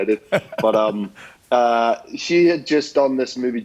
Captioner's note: laughs